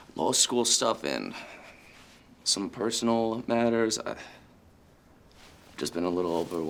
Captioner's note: sighs